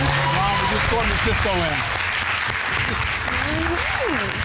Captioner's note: audience applauding